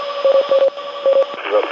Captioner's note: device beeping